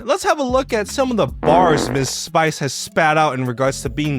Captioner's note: person farting